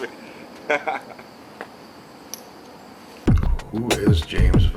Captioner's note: laughs